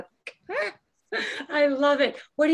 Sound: chuckling

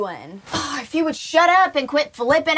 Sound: sighing

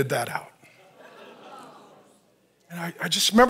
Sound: audience laughs and moans

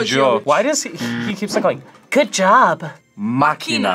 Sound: laughs

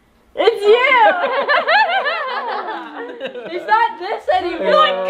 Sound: everyone laughs

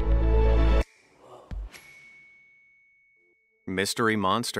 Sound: dramatic music; bell ringing

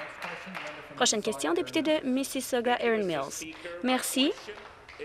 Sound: some Applause

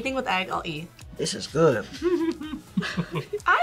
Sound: laughs

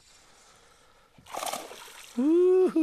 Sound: splash

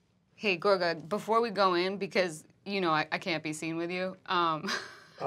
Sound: laughs

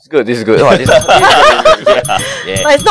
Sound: ring ring

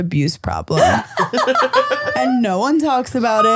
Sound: both laughing

